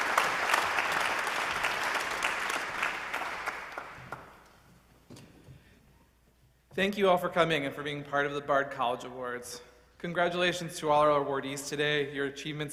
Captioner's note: applause